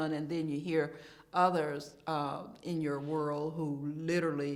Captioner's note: none